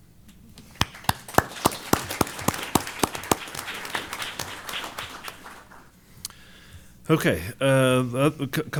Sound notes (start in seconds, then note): 0.6 applause